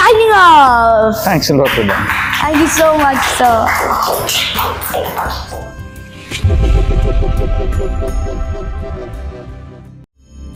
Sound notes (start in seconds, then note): 1.6 claps; 2.1 laugh